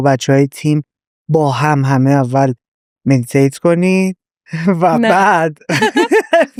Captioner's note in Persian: خنده